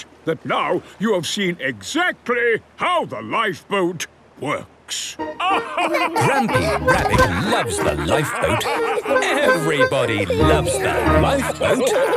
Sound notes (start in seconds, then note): 5.4 all laugh